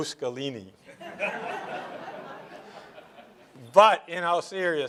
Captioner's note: laughter